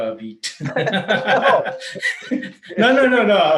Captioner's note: laughs loudly